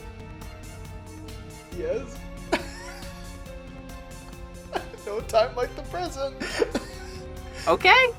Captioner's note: chuckles